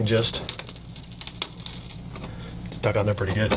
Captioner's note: velcro peeling